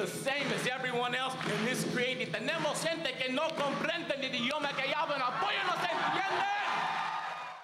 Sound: speaking Spanish

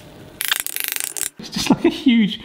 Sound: knife chattering

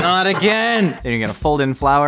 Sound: metal clanging

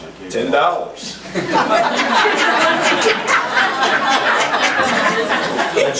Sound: group laughs

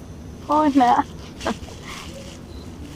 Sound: both chuckle

